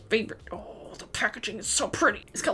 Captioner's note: through clenched teeth